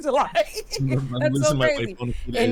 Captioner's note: laughing